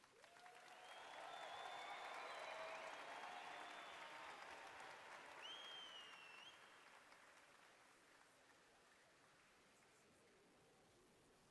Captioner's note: applause